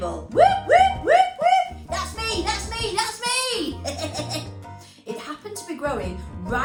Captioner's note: laughter